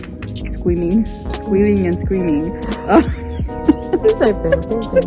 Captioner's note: laughs